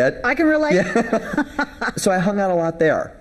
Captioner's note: both laughing